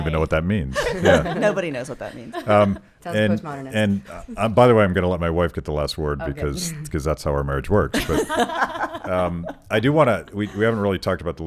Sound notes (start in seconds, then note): 7.9 laughing